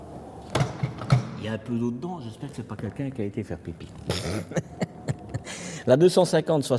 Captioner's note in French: rires